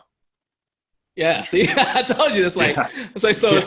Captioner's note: laughs